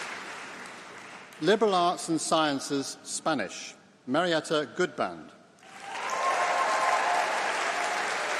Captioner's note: Spanish